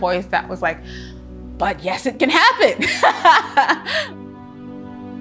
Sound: laughs joyfully; soft inspirational music

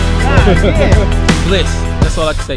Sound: laughing

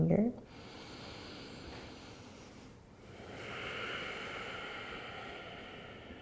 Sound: deep breathing

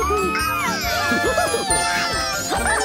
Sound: cheers

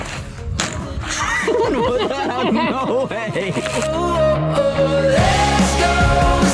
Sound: both laughing

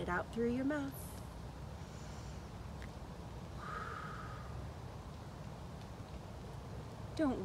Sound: deep breath out; deep breath in

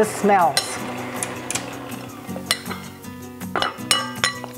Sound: utensils cackling

